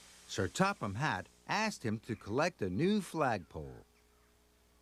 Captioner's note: steam hissing